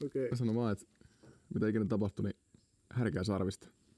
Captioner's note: none